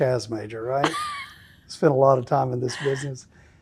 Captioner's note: laughing